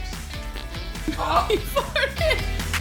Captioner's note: dog farting; gasping; laughing